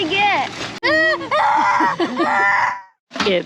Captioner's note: screaming